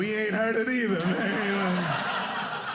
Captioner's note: audience laughing